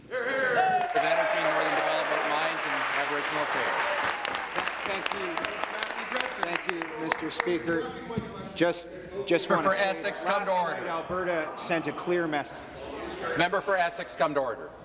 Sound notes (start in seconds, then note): 3.6 applause; 4.3 cheers